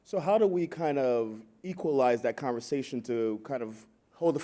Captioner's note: none